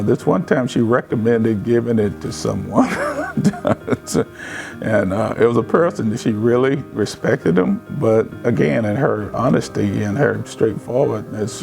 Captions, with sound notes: This one time, she recommended giving it to someone. (laughs) It was as person that she really respected him, but, again, in her honestly and her straightforwardness,